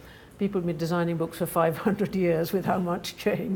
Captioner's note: chuckles